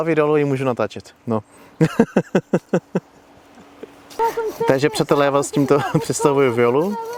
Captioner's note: laughs